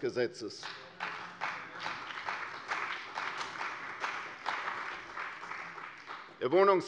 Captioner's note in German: Beifall bei der CDU und dem BÜNDNIS 90/DIE GRÜNEN